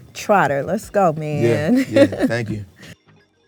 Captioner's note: laughs; soft upbeat music